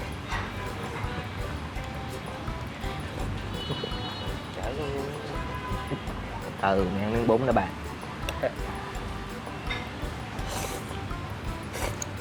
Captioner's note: nonstop slurping